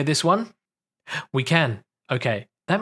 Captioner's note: gasps